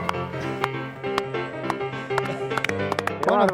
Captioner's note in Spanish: Applause